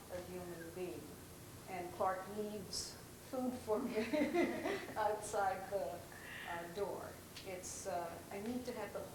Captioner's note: laughs